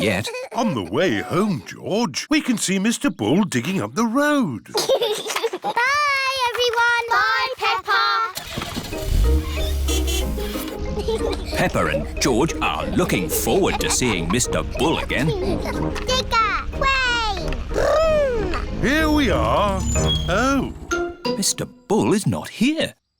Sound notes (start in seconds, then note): 4.6 giggles; 8.1 car starts; 8.9 toots horn